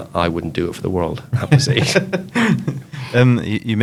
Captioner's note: laughs